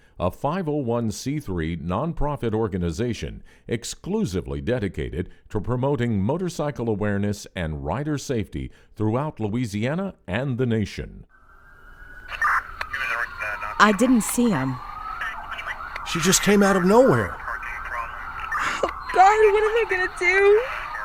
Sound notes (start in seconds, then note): 11.5 sirens wailing